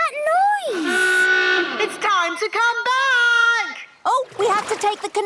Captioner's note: honking; horn honking